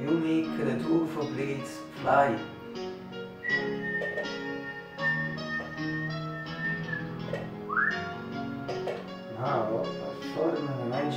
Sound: whistle

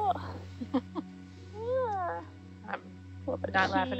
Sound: laughing

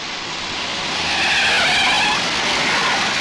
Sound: tires Screeching

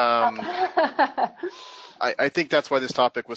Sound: laughs

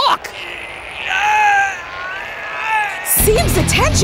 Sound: screaming

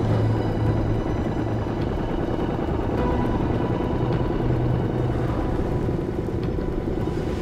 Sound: boat motor grumbles; dramatic music

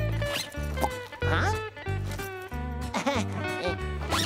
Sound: chuckles

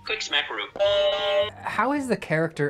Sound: beep!!

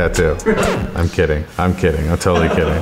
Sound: record scratches

